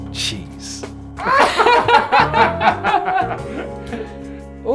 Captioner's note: giggles